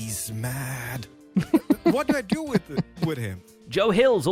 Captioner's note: laughs